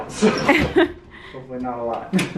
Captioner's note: both laugh